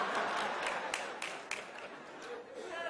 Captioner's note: applause